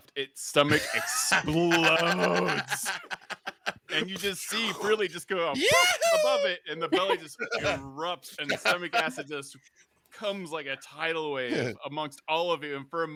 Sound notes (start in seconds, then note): 2.6 laughs